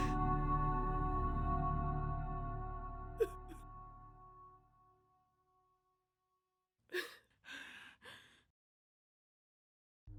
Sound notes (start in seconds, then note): 3.0 weeping